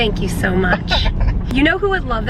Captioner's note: chuckling